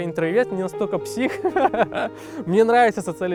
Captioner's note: laughs